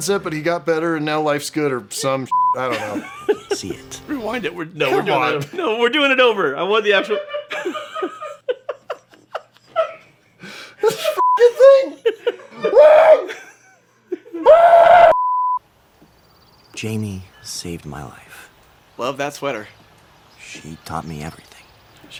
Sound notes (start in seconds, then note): 11.2 beeping; 12.6 shrieks of despair